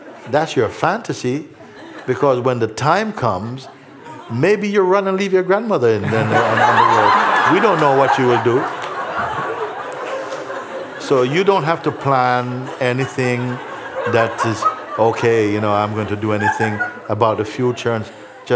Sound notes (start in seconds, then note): 10.1 laughter